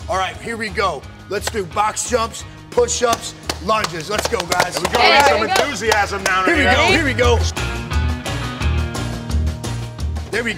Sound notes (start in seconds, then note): 2.9 clapping; 8.9 upbeat guitar music